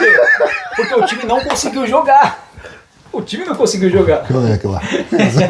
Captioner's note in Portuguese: risadas; risadas